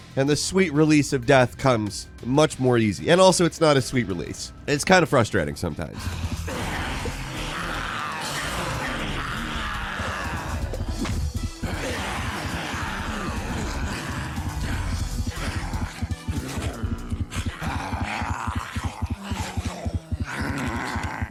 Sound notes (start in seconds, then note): 6.3 groaning; 6.3 zombies moaning